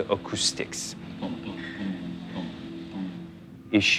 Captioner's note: man’s voice humming